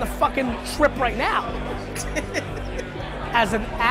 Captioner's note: laughs